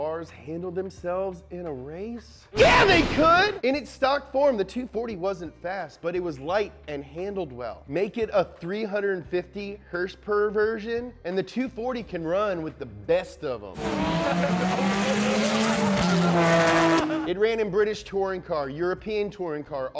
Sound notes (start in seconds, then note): 13.7 heavy car revving